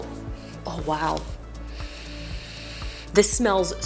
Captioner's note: sniffing